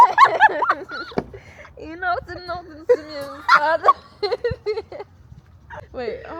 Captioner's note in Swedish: Skratt